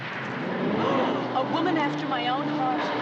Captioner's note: gasping